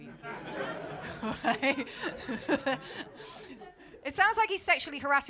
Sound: laughter

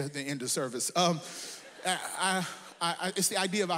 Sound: audience laughs

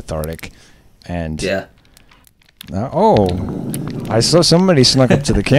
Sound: growls

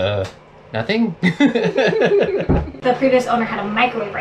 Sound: both laugh

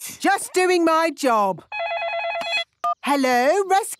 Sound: phone ringing

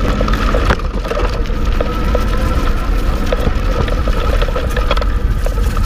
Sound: tire spinning on concrete

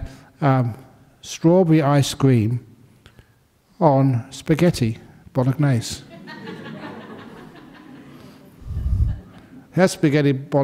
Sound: laughter

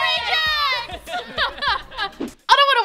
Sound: laughing

